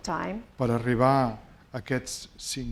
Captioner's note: speaking spanish